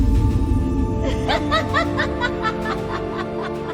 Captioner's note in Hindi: हंसी